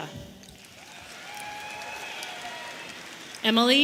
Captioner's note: audience cheering